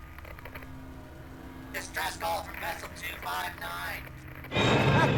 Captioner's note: radio Voice